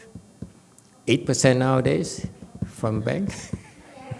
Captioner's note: laughs, audience laughs